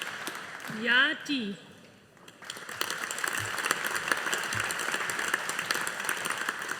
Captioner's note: audience applauding